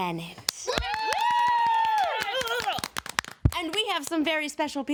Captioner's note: people cheering